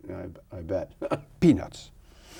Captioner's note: chuckles